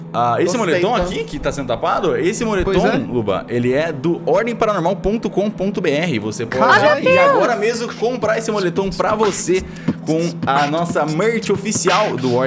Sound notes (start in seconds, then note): 7.1 beatboxes